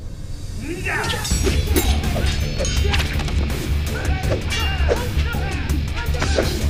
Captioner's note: metal clinking; grunting